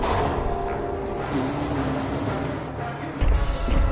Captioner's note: blows raspberry